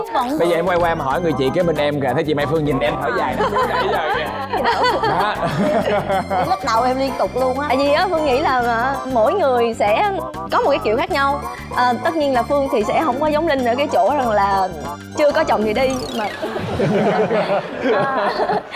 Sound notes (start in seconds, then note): 4.4 laughter; 16.5 laughter